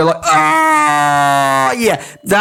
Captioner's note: Walrus mating call